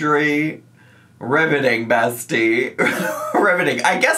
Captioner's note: laughs